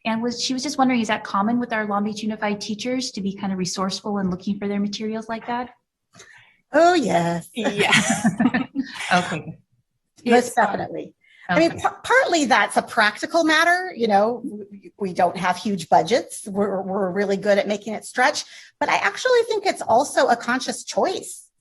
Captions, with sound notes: And she was just wondering, is that common with our Long Beach Unified teachers to be kind of resourceful and looking for their materials like that? - Oh, yes. - Yes, definitely. (all laughing) - Okay. - Yes, definitely. - Okay, so. I mean, partly, that's a practical matter, you know, we don't have huge budgets. We're really good at making it stretch but I actually think it's also a conscious choice.